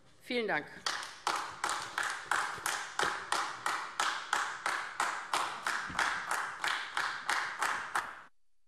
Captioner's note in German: Beifall AfD